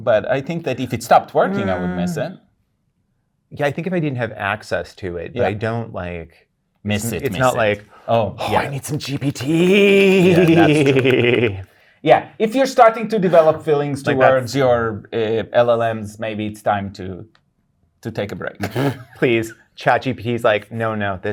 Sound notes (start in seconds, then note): 18.6 laughing